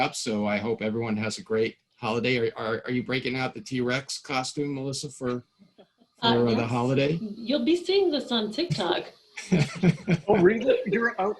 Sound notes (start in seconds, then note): 9.4 laughing